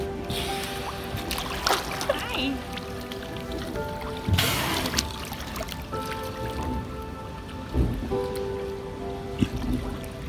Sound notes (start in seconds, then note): 0.3 Walrus exhales; 1.2 water splashing; 4.4 Walrus exhales